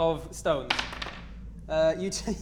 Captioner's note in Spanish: Tirada de dados